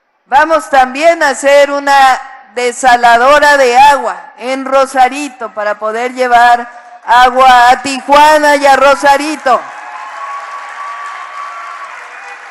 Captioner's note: applause